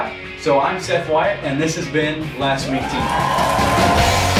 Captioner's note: audience applause